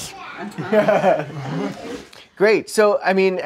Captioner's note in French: rires